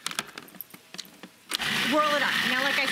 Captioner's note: processor whirring